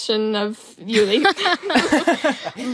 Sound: laugh

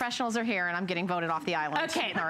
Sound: laughter

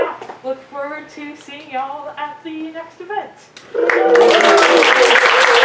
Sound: audience applause

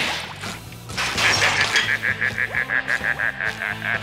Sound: laughing

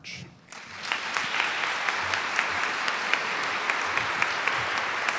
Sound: crowd applauding

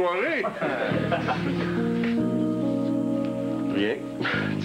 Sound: Rires

